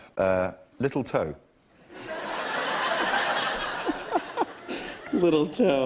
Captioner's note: laughter